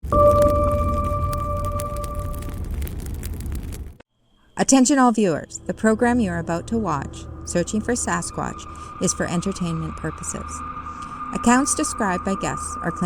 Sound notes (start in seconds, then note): 0.0 fire crackling; 0.0 bright tone resonating